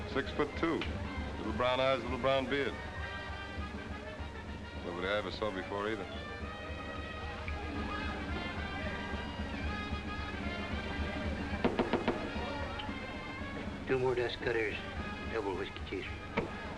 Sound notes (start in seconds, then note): 11.6 tapping on counter